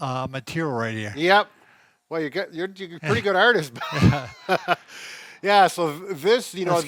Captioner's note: laughs